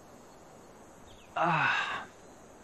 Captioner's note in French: Deib exhales